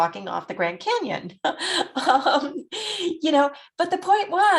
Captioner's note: laughs